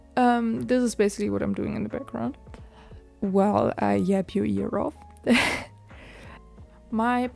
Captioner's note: laugh